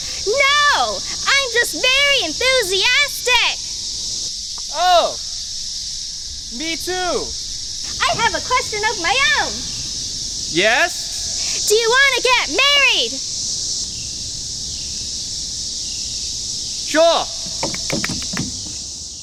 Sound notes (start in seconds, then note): 13.7 birds, crickets chirping; 17.5 clapping